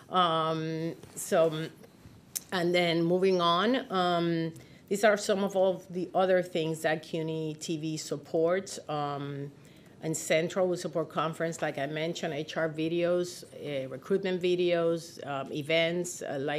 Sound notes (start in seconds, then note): none